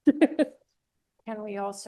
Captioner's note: laughs